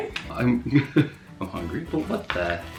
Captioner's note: laughs